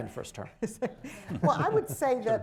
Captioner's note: laughter